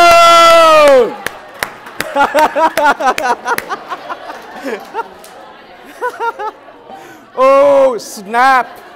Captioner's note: laughter